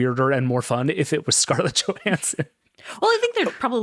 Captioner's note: chuckles